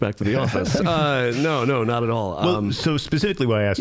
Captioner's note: all chuckling